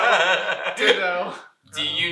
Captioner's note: laughter